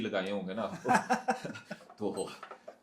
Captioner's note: हंसी